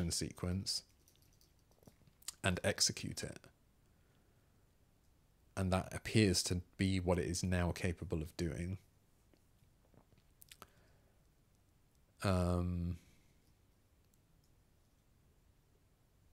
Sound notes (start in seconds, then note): 8.1 silence